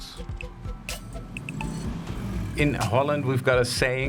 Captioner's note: engine roaring